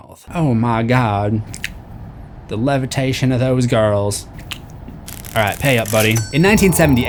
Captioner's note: mouth noises